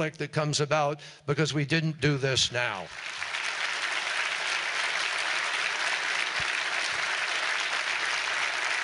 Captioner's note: applause